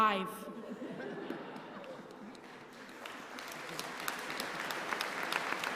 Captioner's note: applause